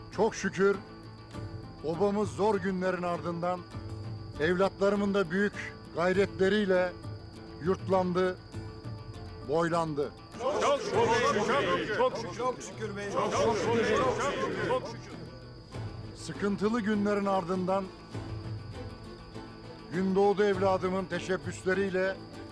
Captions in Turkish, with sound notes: ...çok şükür obamız zor günlerin ardından... ...evlatlarımın da büyük gayretleriyle yurtlandı... ...boylandı. (Hep bir ağızdan) Çok şükür beyim. Sıkıntılı günlerin ardından... ...Gündoğdu evladımın teşebbüsleriyle...